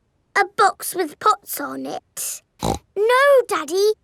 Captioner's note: snorts